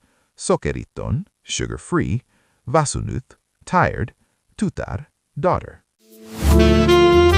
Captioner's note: tired